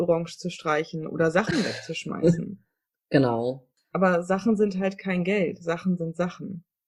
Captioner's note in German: sarkasmus